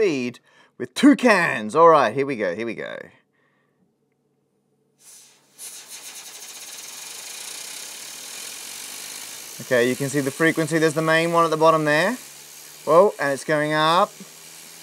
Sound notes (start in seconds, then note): 5.4 whirring